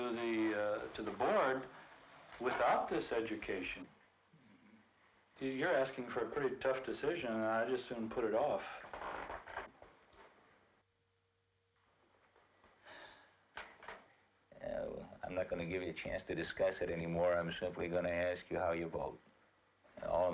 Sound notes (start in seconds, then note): 12.8 sighs